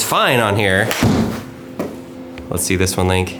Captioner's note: bang